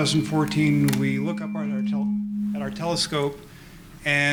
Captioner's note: microphone feedback